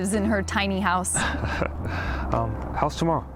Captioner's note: Carl chuckles